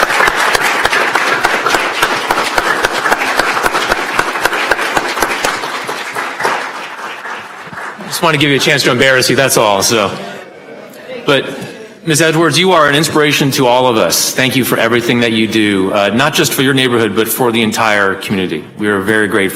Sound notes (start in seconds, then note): 5.6 applause